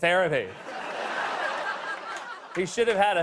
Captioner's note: laughter